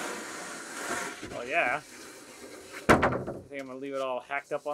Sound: plank clunks

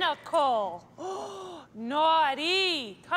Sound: gasps

